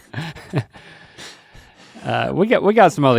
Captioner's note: Link chuckles